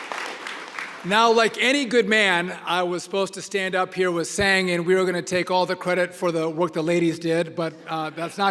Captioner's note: applause